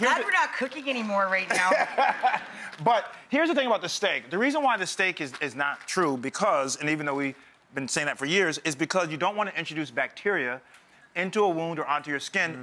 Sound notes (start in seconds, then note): 1.5 Dr. Ian and audience laugh